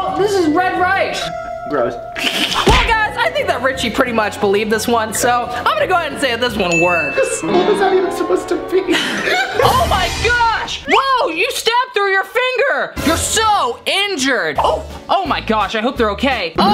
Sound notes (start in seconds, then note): 8.9 laughing